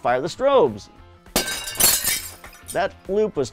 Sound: glass breaking

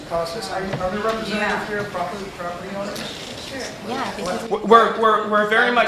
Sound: murmur of agreement

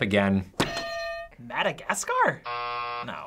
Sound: hitting bell; buzzer

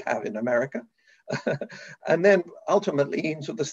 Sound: chuckles

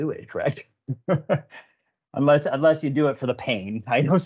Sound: laughs

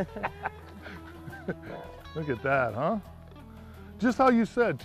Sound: laughter

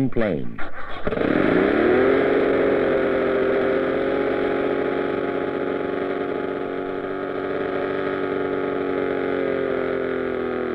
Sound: plane engine

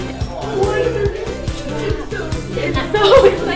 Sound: class chattering

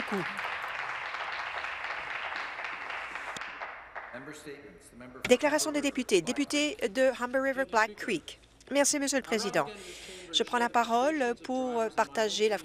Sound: applause

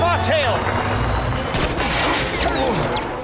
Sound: gunshots

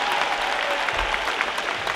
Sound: crowd cheers

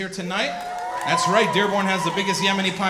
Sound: audience cheering

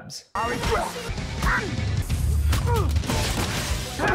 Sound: grunting

